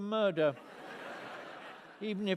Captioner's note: laughter